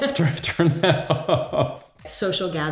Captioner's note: laughing